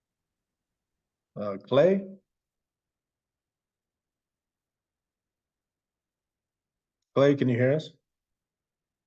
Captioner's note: pause